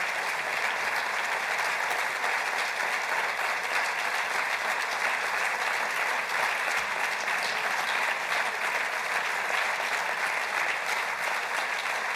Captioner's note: applause